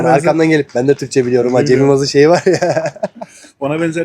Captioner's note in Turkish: kahkaha